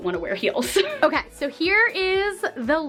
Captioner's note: laughs